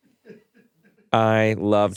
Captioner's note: crew laughing